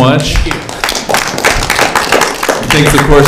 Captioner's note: applause